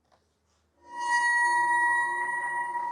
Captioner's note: ringing